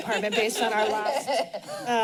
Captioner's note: laughs